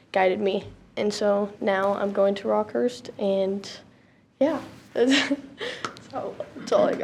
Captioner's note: chuckles